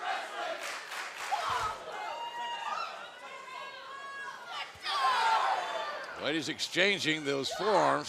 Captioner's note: fans chanting